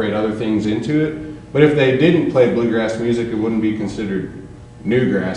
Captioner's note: none